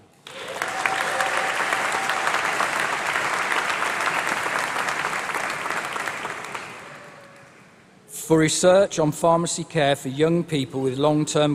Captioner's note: applause